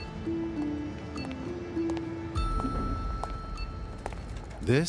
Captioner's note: heels tapping against a pavement